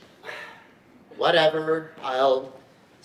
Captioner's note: sighs